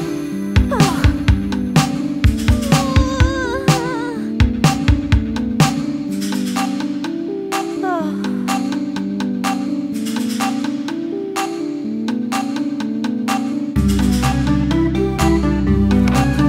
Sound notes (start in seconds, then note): 0.4 gasp; 2.2 scared whining; 7.9 sigh